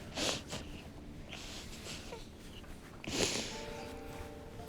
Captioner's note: crying